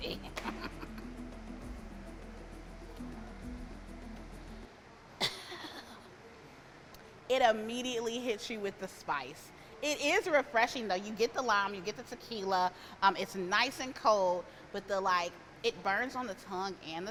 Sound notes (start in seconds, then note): 0.0 laughs; 5.2 coughs